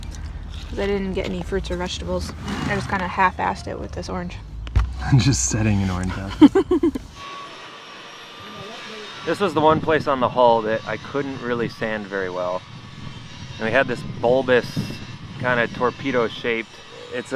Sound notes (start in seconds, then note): 6.1 laughing; 8.3 sander buzzing